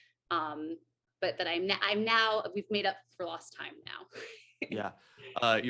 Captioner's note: AJ laughs